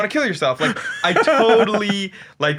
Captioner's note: laughing